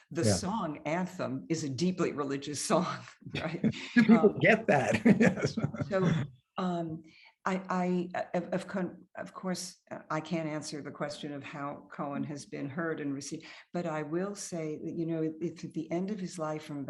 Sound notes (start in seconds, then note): 3.4 laughs